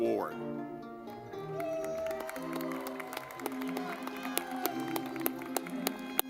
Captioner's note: lively music; audience clapping